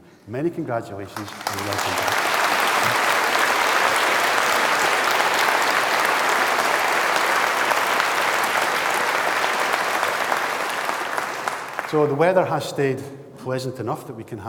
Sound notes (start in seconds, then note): 2.0 applause